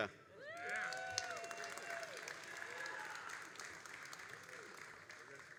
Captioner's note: all applauding and cheering